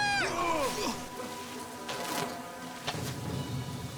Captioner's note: grunting; arrows flying